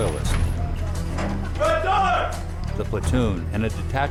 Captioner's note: yelling